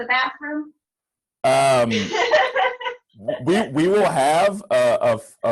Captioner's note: laughter